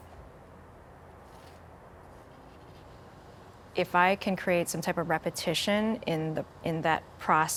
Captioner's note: pencil scratching continues